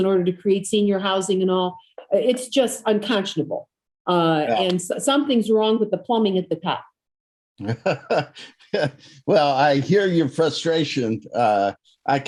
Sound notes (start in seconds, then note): 7.6 laughs